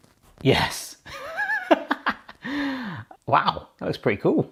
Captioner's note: laughing